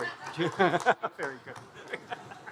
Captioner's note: participant laughing; participants laughing